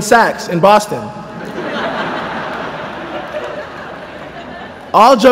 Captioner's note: laughter